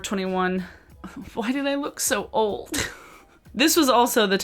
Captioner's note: giggles